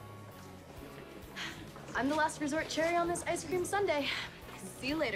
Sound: sighs

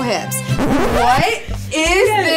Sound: record scratch

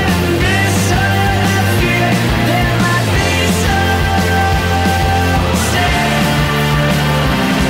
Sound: shouting

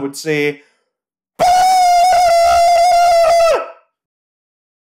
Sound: spider-man noises

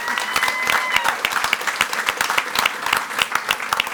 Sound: audience applauding

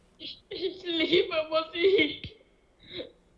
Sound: tearfully

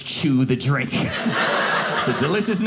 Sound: audience laughing

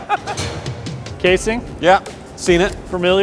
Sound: laughing

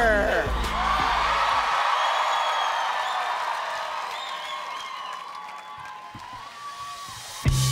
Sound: crowd cheers

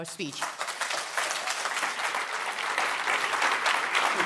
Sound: applause

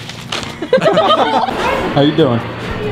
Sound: laughing

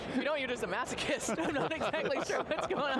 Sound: laughing

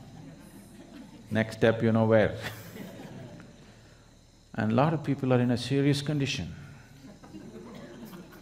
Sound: laughs

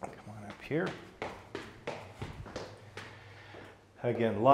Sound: footsteps thumping

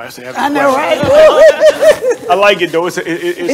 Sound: laughs

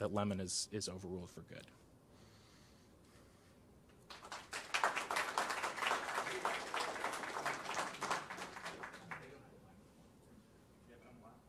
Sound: applause

